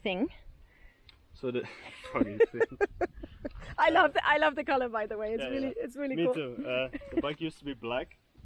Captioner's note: laughing